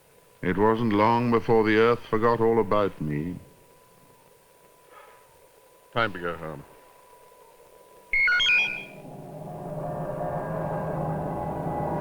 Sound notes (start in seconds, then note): 4.8 sighs; 8.1 electronic beep